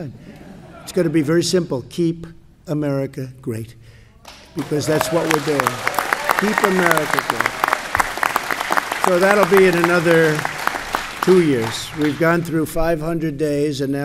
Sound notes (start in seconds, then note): 0.3 laughter; 3.7 applause